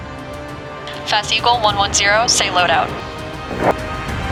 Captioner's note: voiceover